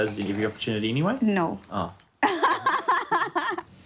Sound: laughs

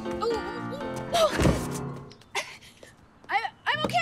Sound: thudding

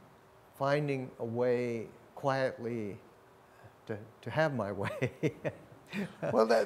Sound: laughs

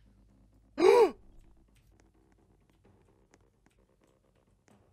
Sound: laughs; Unicorn Mann gasps

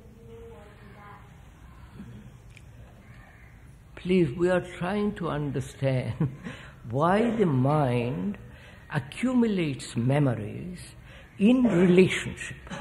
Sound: laughs

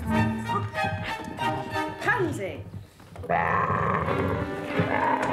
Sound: growling

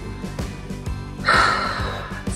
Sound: exhales

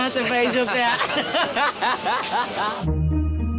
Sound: laughing

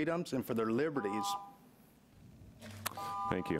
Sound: timer beeping

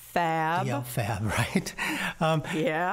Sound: laughing

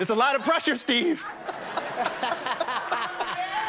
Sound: laughter

